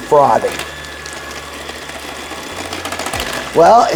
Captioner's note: mixer whirring